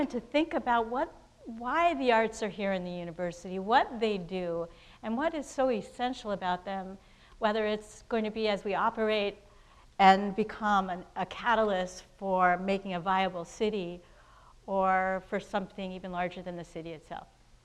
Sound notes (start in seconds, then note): none